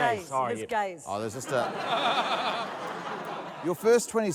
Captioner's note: laughter